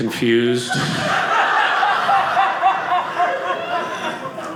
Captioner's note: audience laughing